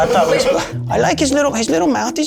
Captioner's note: in puppet voice